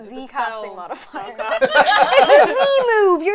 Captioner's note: laughter